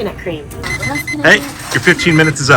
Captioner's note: timer buzzes